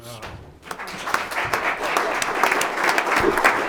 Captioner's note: clapping